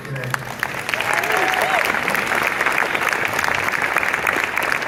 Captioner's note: audience cheers and claps